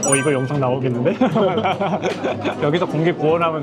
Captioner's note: laughter